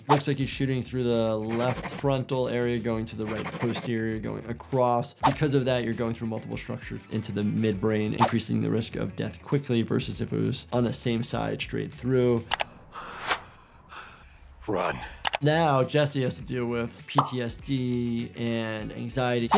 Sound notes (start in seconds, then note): 12.8 Jesse exhales